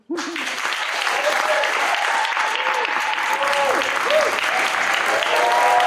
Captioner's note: audience claps and cheers